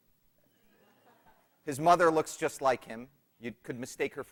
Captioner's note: laughter